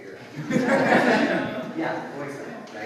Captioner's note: audience laughs